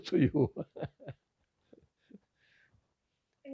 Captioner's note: laughing